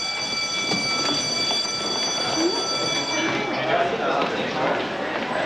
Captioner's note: bell ringing; crowd chatter